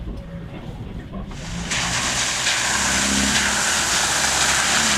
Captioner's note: vehicle engine roaring